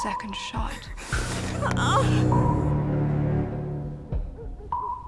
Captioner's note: Lou grunting